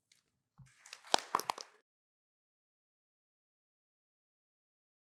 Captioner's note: applause